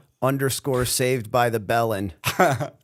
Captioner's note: chuckle